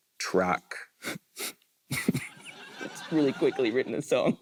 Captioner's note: chuckles